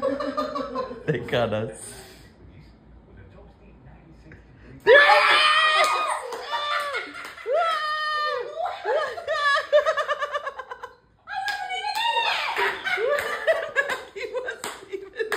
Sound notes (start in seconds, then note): 4.8 screaming; 12.2 laughing